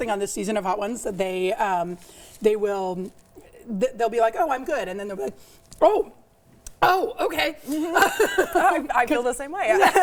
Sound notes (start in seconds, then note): 7.8 laughs